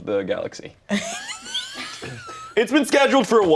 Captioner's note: laughs